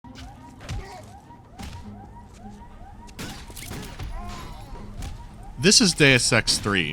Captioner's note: alarm sirens going off